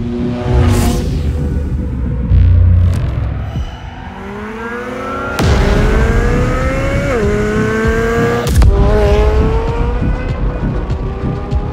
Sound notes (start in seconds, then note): 0.0 dramatic music; 4.5 engine sounds